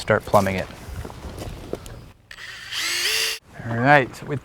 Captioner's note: drill whirring, no additional audio